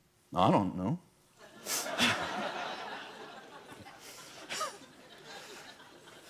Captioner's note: laughter